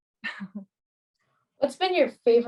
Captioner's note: laughs